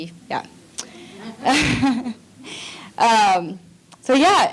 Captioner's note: audience laughing